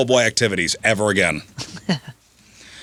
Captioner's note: laughing